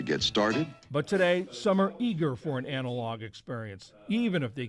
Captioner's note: voice-over